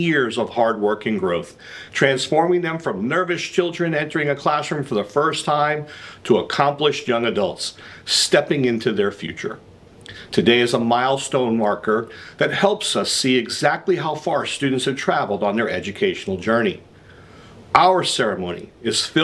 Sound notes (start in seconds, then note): none